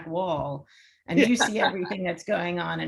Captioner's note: laughs